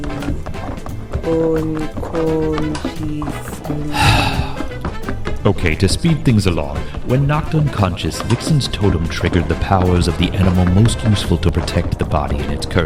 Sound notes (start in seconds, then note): 6.5 sigh